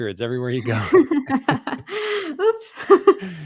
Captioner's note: laughs